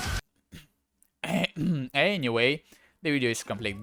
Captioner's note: ahem